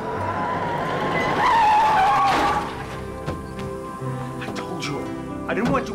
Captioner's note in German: Reifen quietschen